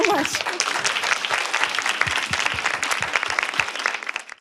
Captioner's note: applause